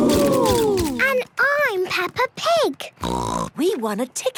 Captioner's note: snort